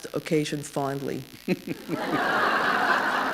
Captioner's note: laughter